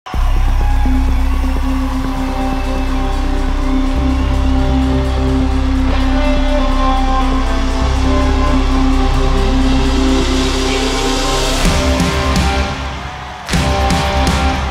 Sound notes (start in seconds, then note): 0.5 cheering